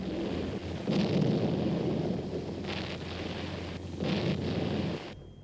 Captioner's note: explosions booming